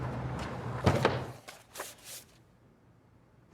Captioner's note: door closes